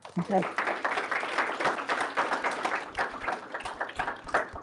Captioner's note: applause